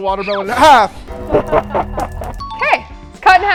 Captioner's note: evil laughing